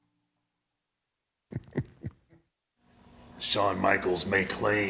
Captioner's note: Mark chuckles